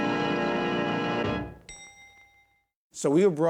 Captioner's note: ding